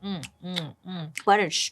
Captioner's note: kissing